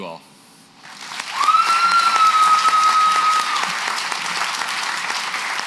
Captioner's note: applause